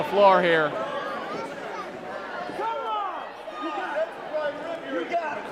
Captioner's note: crowd clamoring